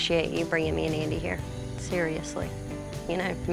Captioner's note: none